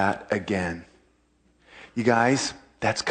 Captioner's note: sobered silence